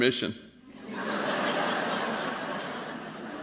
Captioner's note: laughter